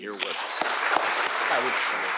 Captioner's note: audience applauding